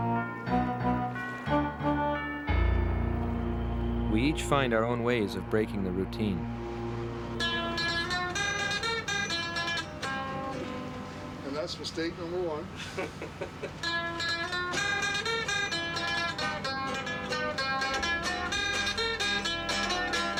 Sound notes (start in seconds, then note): 0.1 solemn music; 7.8 mandolin and guitar music; 12.7 man laughs